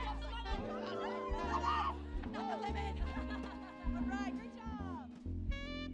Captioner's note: people chattering; people laughing